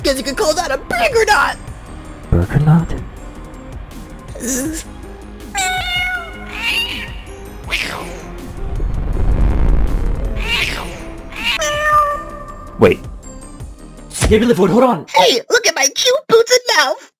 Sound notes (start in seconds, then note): 5.5 cosmic meowing